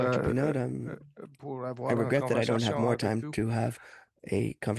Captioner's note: speaking French